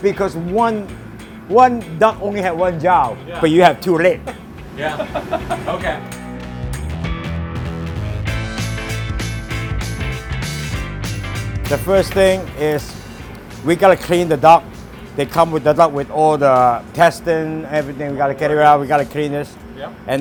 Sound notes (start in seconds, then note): 4.8 laughter